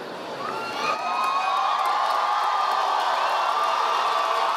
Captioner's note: audience applauding